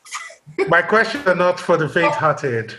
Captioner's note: laughs